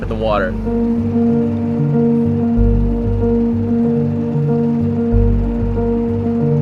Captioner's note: boat whirring; calm music